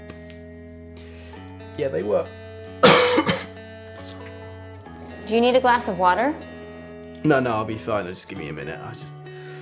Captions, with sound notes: (coughs) Yeah they were..... Do you need a glass of water? No...I just need a minute